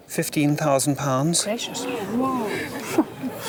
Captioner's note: crowd gasps